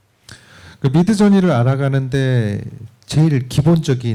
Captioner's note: speaking korean